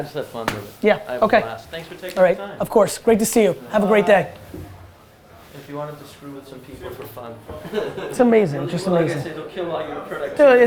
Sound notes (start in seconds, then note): 7.6 laughing